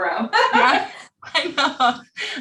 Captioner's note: laughs